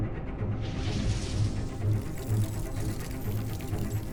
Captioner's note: zapping